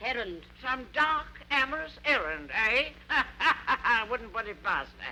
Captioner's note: laughs